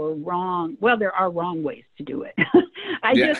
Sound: laughs

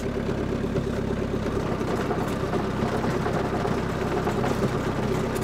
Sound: motor continues rumbling

